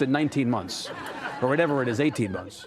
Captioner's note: audience laughing